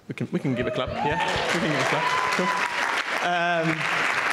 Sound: applause

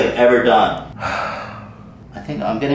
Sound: sigh

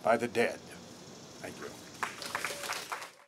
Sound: light applause

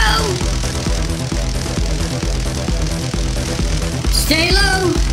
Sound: electricity crackling

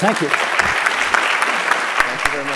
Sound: applause

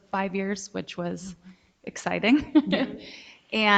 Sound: laughs

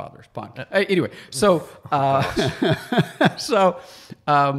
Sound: laughs

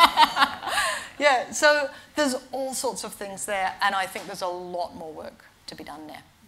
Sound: laughter

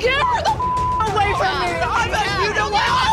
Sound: indistinct shouting

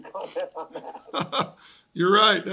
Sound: laughs

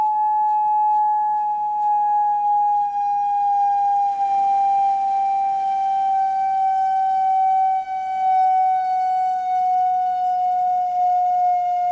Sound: beeping tone; tone fluctuates in intensity

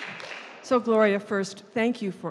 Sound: voiceover

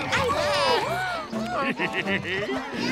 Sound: cackling

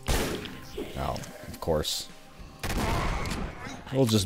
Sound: Boomstick firing

